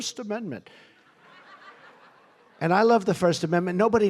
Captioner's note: laughter